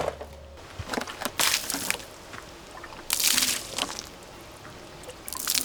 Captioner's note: wood shattering; water splashing